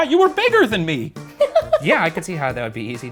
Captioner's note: laughs